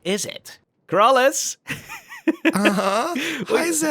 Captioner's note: laughs